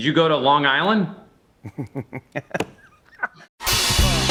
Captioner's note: laughs